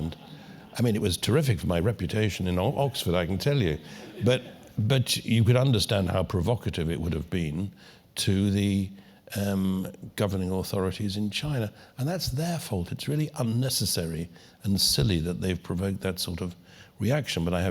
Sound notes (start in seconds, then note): 3.8 laugh